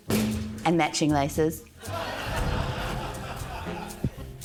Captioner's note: laughter